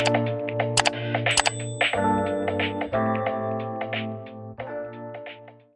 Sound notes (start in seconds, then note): 1.3 bell chimes; 1.3 pointer clicking